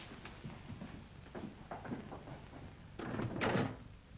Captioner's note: footsteps down stairs; desk clatters shut